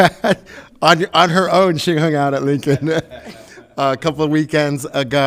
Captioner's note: laughs; laughs